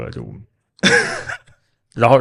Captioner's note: laughs